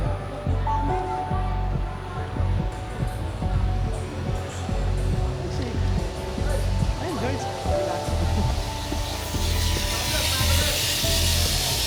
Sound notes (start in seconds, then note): 1.5 upbeat music; 4.8 water running